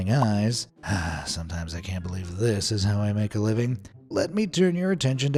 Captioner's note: sigh